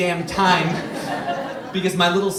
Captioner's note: audience laughs